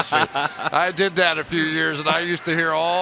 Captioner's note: laughter